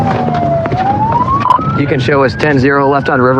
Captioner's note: radio chiadio chirp